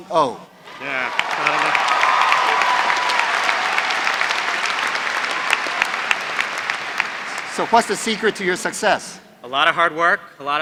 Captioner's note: applause